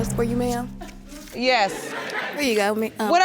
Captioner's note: crowd laughing